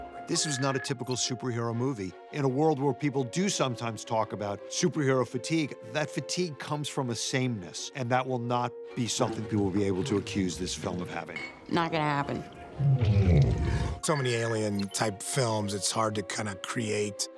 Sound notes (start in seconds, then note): 9.1 alien murmurs; 12.6 sad grumble